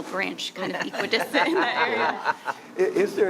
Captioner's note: others laughing